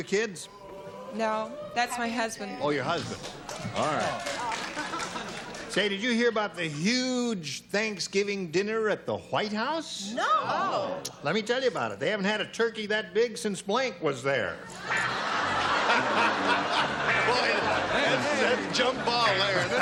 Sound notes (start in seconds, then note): 16.5 laughter